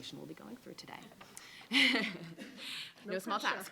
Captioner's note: laughing